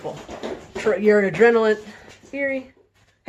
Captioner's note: rustling noise